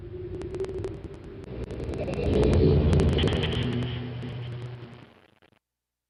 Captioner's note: Myst linking book sound crackling and stuttering